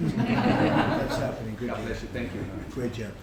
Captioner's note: laughter